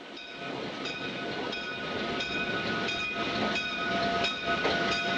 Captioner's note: train bell rings